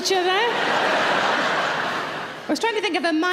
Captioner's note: audience laughing